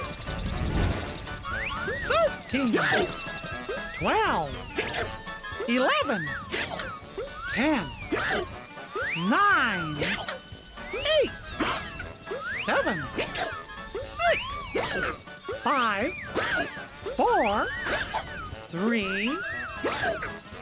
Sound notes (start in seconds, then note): 0.2 hiccups; 2.6 continues to hiccup